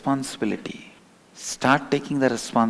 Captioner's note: hindi